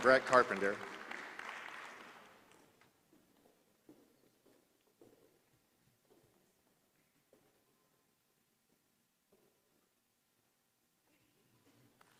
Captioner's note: applause